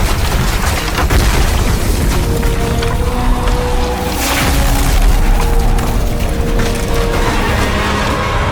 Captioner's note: total destruction roaring; devastation roaring; total destruction roaring